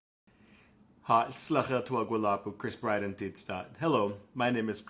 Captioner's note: speaking Lushootseed